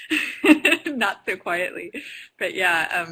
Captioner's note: laughs